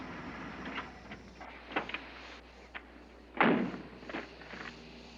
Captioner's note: turns off engine